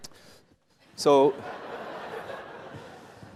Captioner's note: laughter